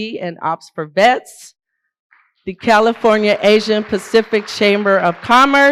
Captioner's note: applause